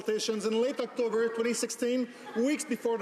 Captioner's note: some Applause